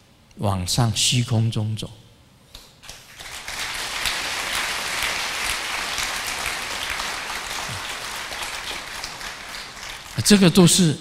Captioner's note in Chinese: 眾鼓掌